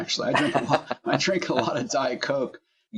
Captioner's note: laugh